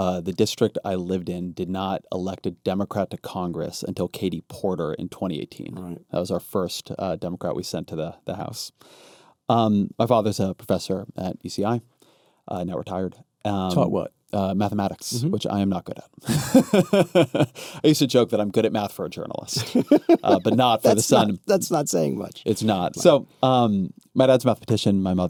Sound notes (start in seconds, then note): 16.2 laughs